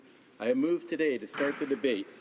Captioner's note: speaking french